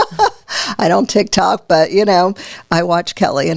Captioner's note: laughs